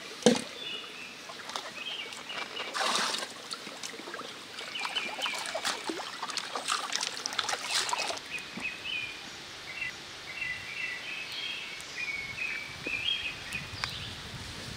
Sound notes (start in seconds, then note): 1.3 birds singing; 6.0 nature sound